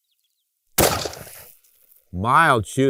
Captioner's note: gunshot